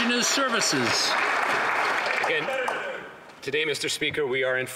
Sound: some Applause

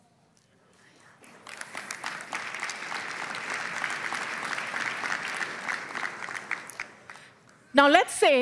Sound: applause

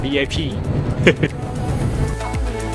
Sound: chuckles

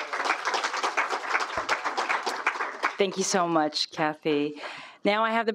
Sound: applause

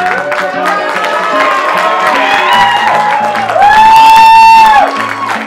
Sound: applause

